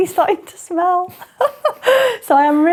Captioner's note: laughs